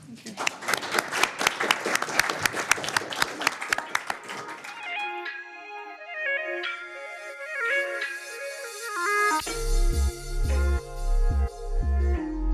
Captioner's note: applause